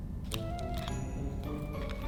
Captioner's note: clicky hair clip ASMR